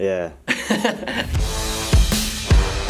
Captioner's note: laughter; electronic music